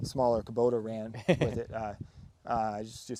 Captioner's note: laughing